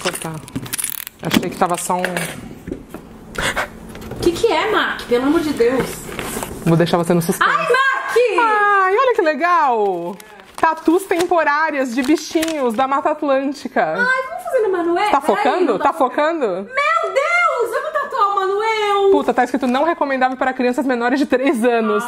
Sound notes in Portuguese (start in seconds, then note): 7.7 grita